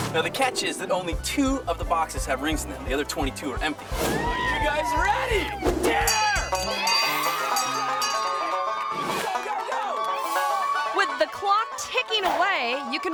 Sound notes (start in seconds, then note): 4.2 people cheering; 6.0 bell rings; 6.9 people cheering; 6.9 upbeat music